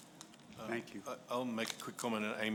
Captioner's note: voiceover